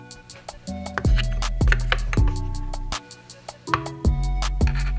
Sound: smooth upbeat music continues; utensils rattling

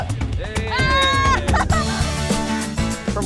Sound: cheers

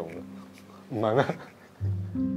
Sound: laughs

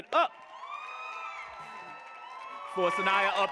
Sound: audience cheering and applauding

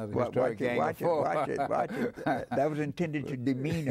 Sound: laughs

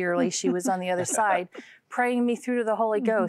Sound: laughter

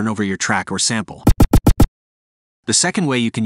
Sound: scarcth sample

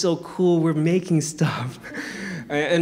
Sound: chuckles; audience chuckling

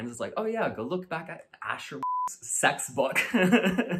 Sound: beep

